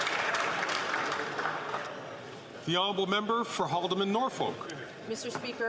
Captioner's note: some Applause